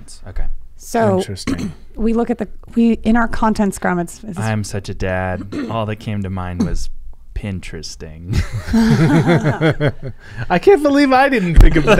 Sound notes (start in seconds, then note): 8.3 laughing